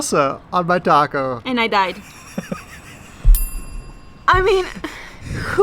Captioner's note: laughing